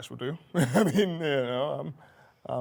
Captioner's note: laughs